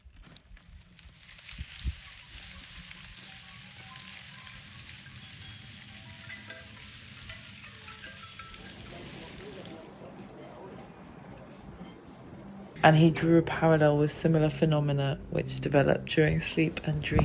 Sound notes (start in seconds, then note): 0.3 crunching; 3.7 wind chimes